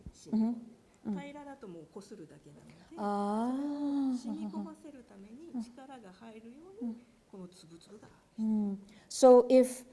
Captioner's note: speaking japanese